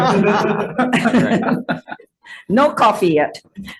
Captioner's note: members laughing